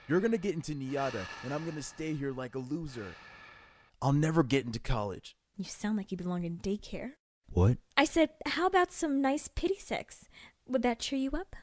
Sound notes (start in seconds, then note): 5.3 muttered